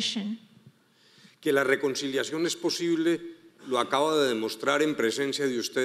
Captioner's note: speaking in foreign language